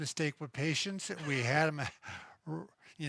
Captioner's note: laughs